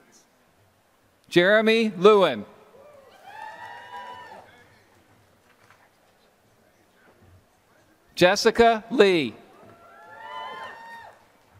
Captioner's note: applause